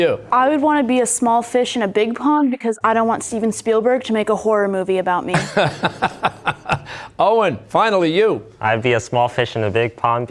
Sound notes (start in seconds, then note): 5.4 laughing